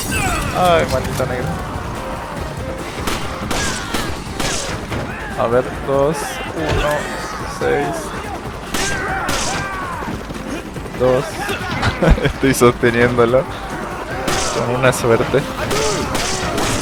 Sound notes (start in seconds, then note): 11.3 laughs